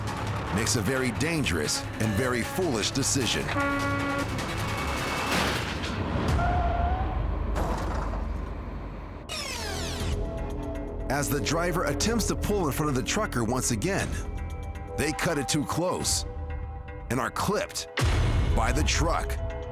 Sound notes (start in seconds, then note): 3.2 horn honking